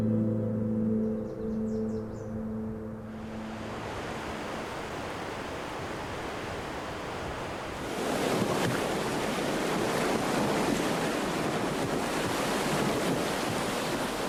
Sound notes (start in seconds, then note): 0.3 gentle wind blowing; 3.9 rushing water; 8.5 water splashing